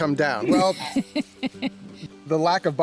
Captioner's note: woman laughing